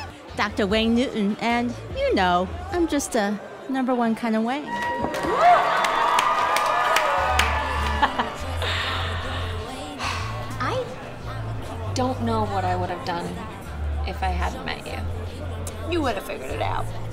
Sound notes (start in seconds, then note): 4.6 cheers